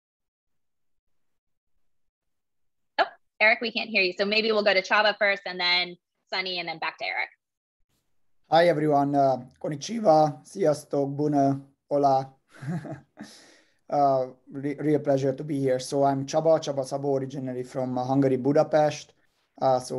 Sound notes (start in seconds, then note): 12.6 laugh